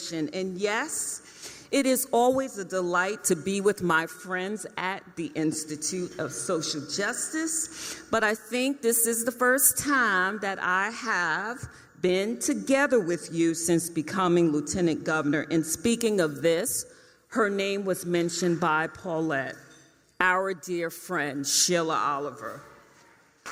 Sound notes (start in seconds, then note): none